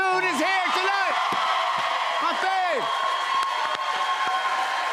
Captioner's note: cheers and applause